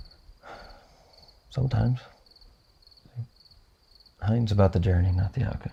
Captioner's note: sighs